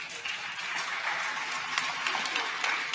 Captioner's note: applause